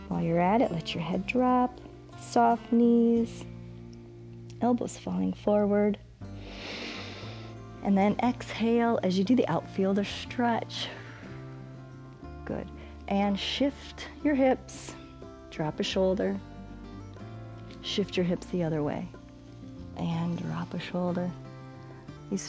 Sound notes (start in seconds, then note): 6.3 inhales; 12.7 exhales